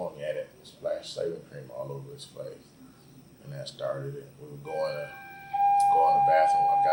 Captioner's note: fire siren begins